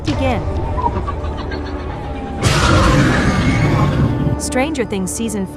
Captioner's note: roar